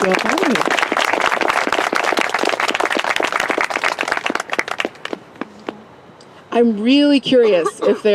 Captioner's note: applause